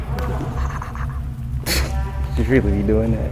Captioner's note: laughs